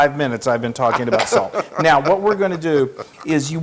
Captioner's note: laugh